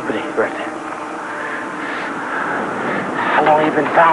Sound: panting

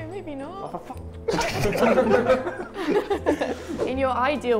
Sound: Sidemen laugh

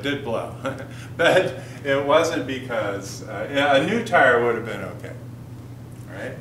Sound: chuckle

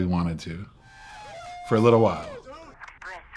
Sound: crowd cheering

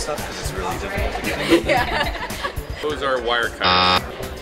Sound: laughs

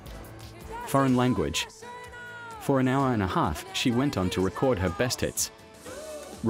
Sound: foreign language

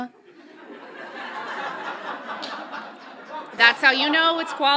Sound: audience laughs loudly

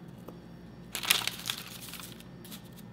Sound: paper rustling

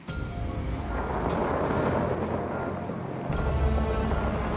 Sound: car engine revving; dramatic music

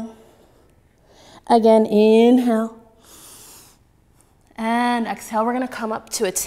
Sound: inhaling

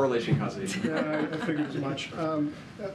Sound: laughter

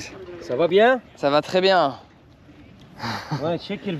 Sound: speaking in foreign language

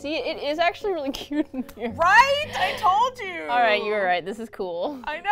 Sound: laughs

